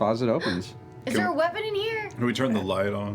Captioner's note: gasps